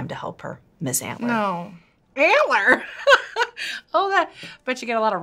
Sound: laughing

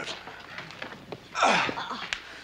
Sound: grunts

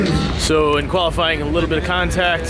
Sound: static sound

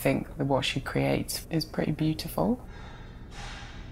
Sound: distant clatter

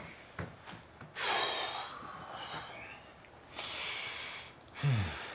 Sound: Bryan exhaling

